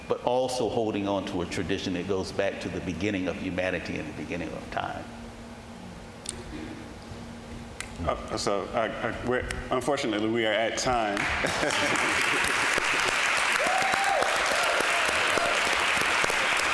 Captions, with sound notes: but also holding onto a tradition that goes back to the beginning of humanity, and the beginning of time. - So, unfortunately, we are at time. (audience applauding)